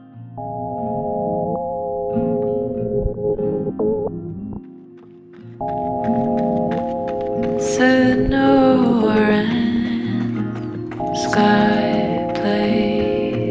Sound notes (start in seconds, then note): 4.6 sound of running on gravel